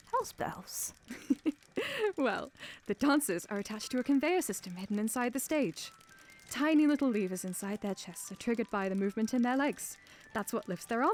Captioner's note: chuckles